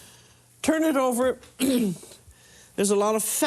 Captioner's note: clears throat